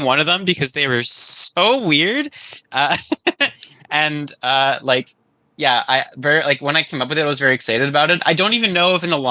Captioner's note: laughs